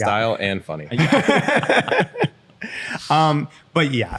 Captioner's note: laughter